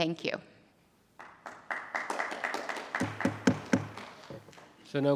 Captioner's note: attendees applauding